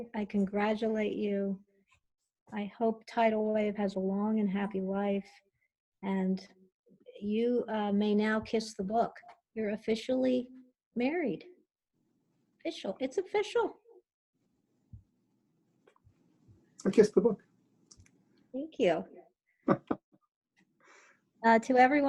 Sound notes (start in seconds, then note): 19.6 laughs